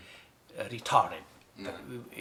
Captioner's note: in English